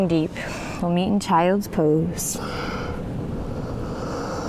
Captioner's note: deep breathing